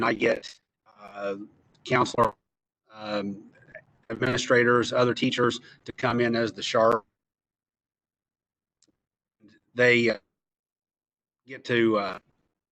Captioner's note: lost audio